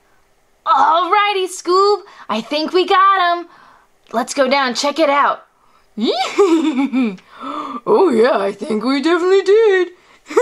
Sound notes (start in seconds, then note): 6.1 laughs